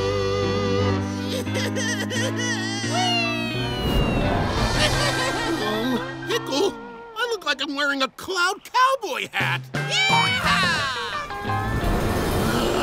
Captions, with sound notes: [crying] [crying] Pickle, I look like I'm wearing a cloud cowboy hat way. Yee-haw!